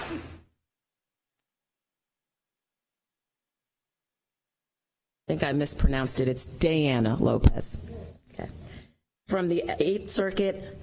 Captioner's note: applause